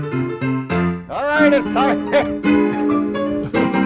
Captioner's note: laughs